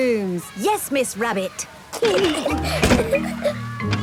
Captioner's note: giggling